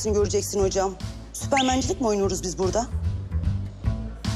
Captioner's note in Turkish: Islık çalıyor